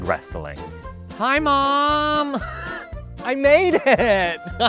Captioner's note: wheezes; laughs